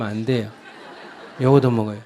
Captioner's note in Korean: 청중웃음